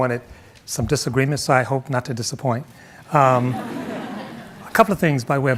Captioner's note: audience laughing